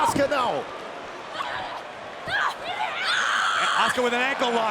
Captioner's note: Bayley screams